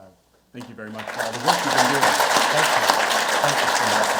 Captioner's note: audience clapping